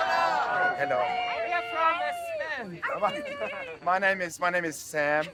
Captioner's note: crowd greetings